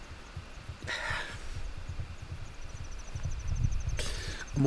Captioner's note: exhales deeply